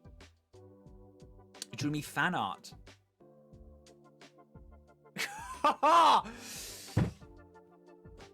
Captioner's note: laughs